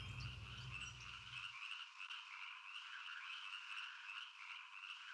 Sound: animals chirping

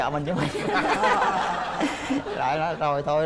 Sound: laughing

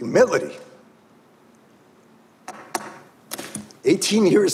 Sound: pen tapping

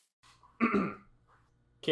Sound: clearing Throat

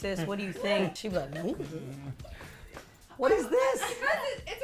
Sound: grumbles

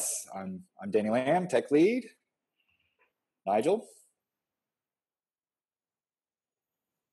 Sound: long pause

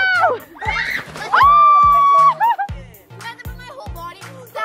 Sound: shouting

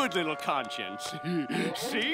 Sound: laughing

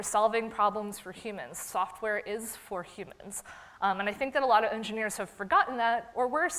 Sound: none

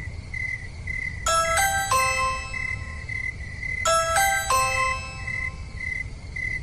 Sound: door Bell Ringing

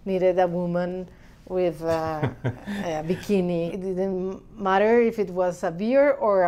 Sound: laughs

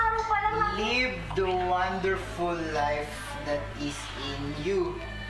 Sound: Dorian murmurs

